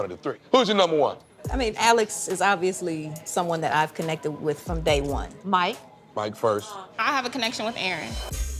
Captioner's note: none